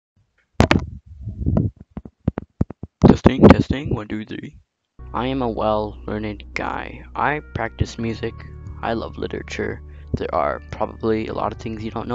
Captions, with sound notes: ( mic feedback ) Testing. Testing. One, two, three.